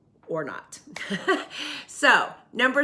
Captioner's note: chuckles